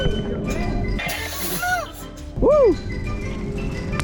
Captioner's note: laughing